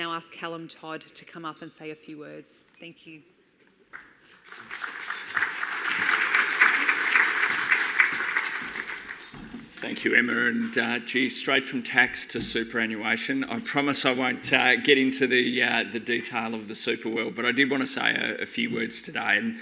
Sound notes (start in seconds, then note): 4.3 audience applauding